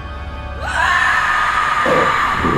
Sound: lamb screaming; creature growling

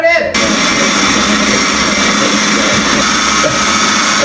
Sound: blends loudly

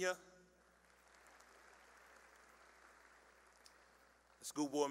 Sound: applause

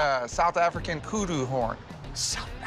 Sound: whispers

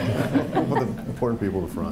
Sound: laughing

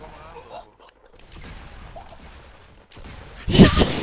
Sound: girlish squeems

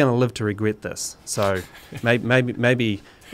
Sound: laughing

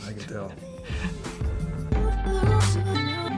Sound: laughs; chill music

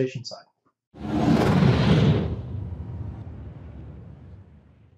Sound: whooshing

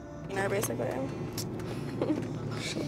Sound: Kristin giggling

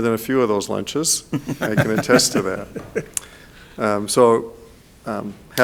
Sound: people laughing

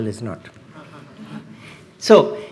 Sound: laughs

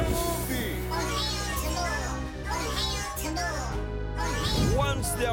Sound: Bongolalas chanting

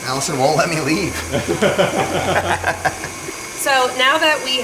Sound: laugh

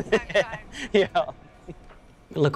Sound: chuckling

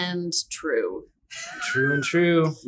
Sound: laughs

